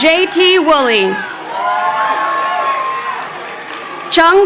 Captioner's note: crowd cheering